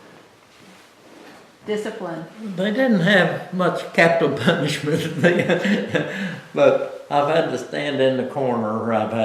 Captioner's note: laughs